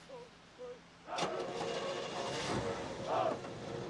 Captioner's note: engine starting